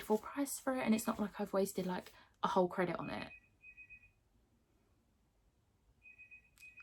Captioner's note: phone rings